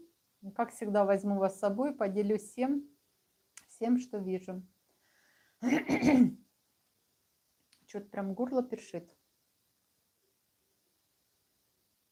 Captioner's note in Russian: откашливается